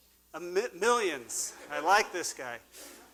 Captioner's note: laughter